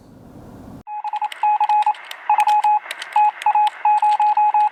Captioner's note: electronic beeping